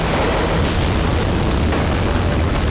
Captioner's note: Explosion